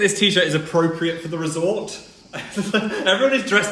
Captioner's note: chuckles